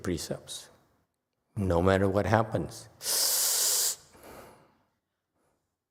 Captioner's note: sucks in a sharp breath